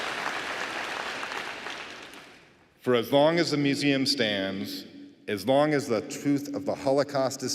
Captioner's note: applause